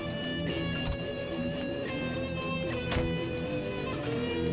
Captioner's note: Door opens and closes